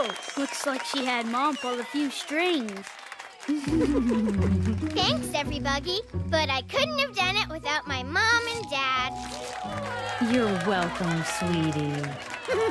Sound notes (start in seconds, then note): 3.5 giggle